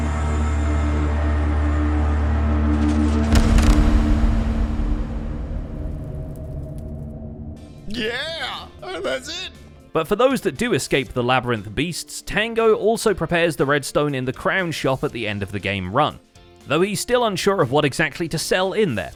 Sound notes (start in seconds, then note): 3.3 epic door opening; 3.3 ominous echo